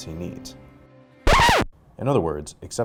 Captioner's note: record scratch